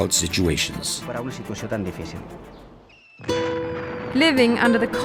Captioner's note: speaking foreign language